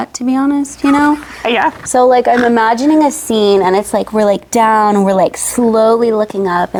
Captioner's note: laughs